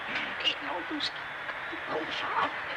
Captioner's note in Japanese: こそこそ話す怪しげな二人